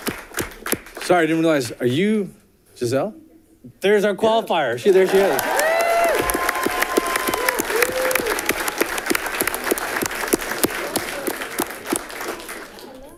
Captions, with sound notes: Sorry, I didn't realize, are you Giselle? There's our qualifier she's right here. (audience clapping) (audience cheering)